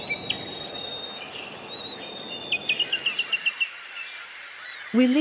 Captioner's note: chirping/whistling birds